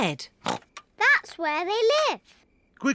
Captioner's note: snorts